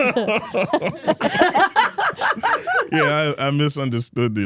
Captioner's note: Steph and Elyse laughing; laughs